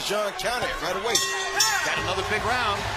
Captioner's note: bell rings